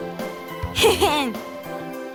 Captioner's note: chuckle